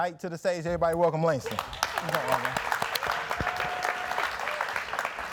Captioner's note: audience clapping